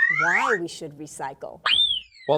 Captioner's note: whistle